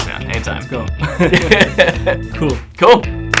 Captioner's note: laughter